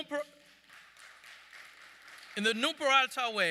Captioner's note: audience clapping